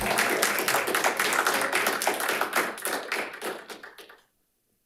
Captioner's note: audience applauding